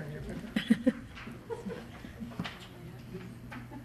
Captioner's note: chuckling